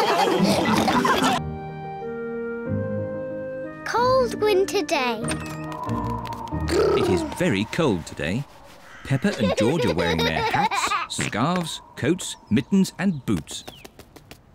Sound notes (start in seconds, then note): 0.0 all laugh; 5.5 wind whistles